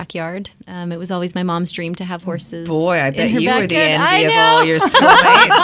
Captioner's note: laughs